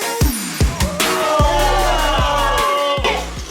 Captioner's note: cheering